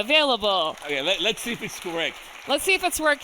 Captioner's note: audience applauding